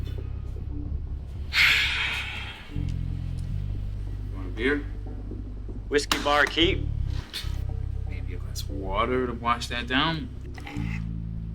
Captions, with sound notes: (Ford sighing) - You want a beer? - Whiskey, barkeep. - Maybe a glass of water to wash that down? - Nah.